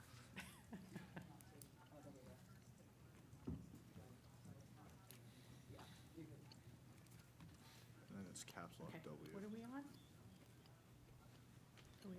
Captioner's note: laughter